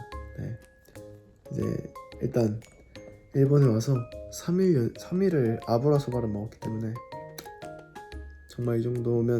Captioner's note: smacking lips